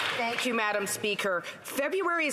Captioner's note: some Applause